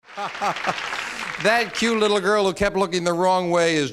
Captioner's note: laughs